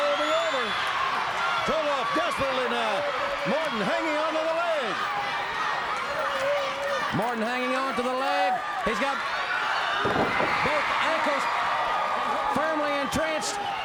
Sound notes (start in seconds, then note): 1.5 crowd cheering; 5.1 crowd chatter; 8.6 crowd cheering